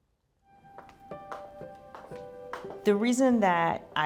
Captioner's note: heeled footsteps on tile